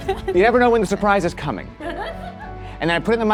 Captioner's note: laughs